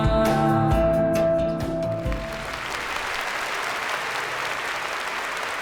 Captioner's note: applause